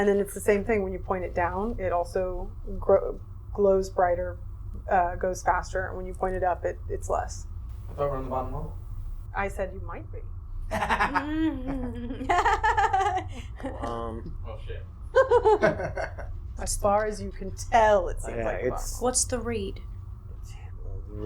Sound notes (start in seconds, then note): 15.1 laughing